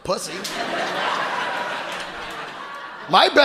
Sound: audience laughing

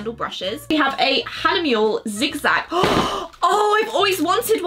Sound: gasps

